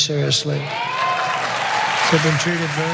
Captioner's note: applause